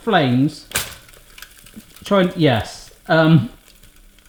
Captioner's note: metal rattles